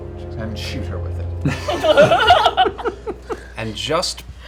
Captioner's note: laughter